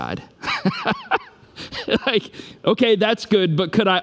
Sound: laughs

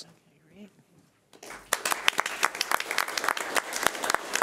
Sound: clapping

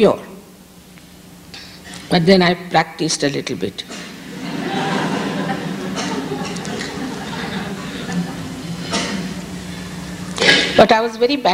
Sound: laughter

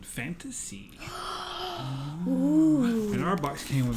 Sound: gasp

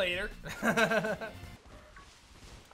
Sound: chuckles

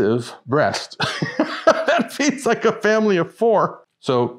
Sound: laughs

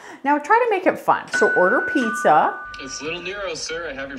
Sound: doorbell rings

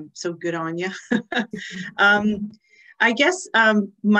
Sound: laughs

